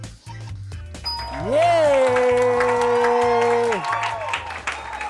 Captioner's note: applause